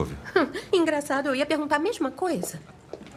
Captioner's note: chuckles